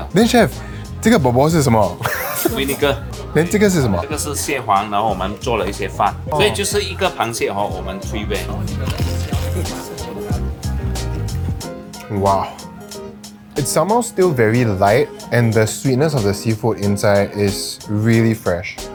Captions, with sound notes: [Crunchy bite] Wow. It’s somehow still very light and the sweetness of the seafood inside is really fresh.